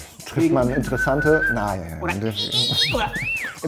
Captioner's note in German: Pfeifen